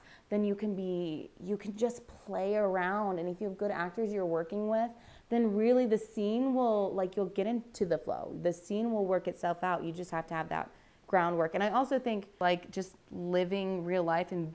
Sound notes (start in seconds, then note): none